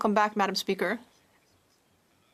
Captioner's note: speaking French